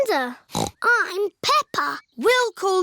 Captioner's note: snorts